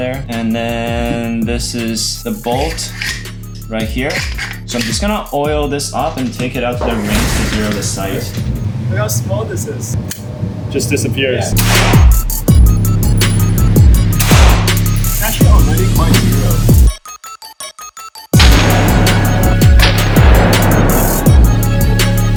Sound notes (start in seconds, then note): 11.6 gun clicks; 11.8 gun firing; 17.3 upbeat music continues; 18.3 gun firing